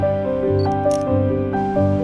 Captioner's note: camera shutter snaps